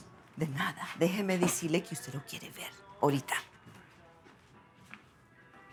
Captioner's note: speaking in foreign language